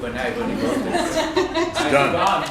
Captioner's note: laughter